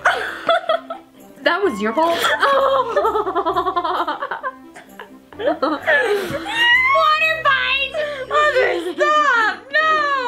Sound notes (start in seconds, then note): 1.8 laughing